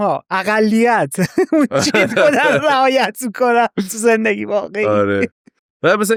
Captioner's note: laughs